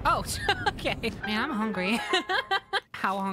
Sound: laughter

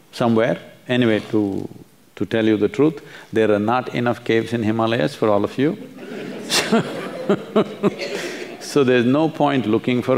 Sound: laughs

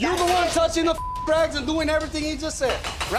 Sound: beep

